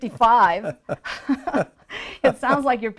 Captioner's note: both chuckles